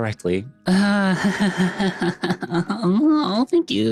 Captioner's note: laughing